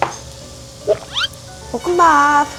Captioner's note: scratching